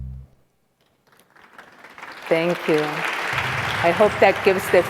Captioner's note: audience applauding